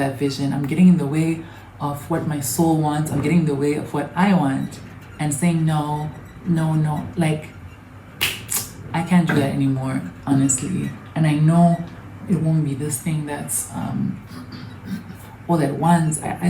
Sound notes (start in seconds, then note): 8.2 one sharp clap & clicks tongue; 14.3 clears throat